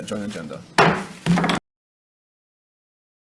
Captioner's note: loud thump